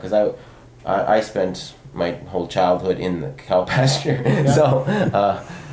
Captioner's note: laughs